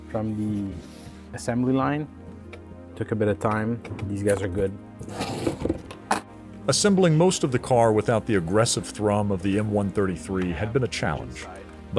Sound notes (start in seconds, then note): 5.5 cardboard ripping; 6.7 voiceover